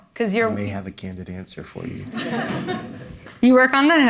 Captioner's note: audience laughing